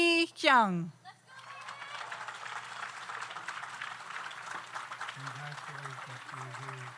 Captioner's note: audience cheers; audience applauds